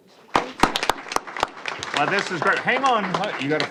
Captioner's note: applause